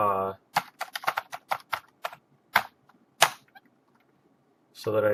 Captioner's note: typing